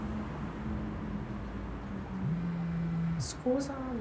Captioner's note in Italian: vibrazione del telefono